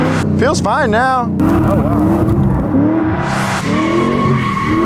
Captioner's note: car engine revving